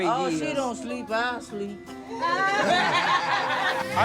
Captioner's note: laughing